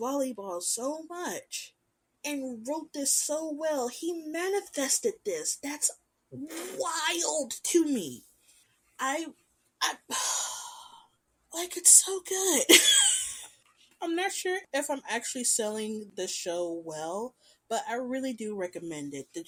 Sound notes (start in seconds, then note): 6.4 sputter noises; 12.2 laughing